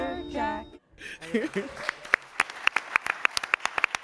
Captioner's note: applause